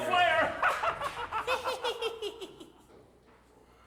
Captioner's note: both laughing